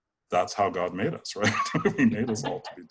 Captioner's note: chuckles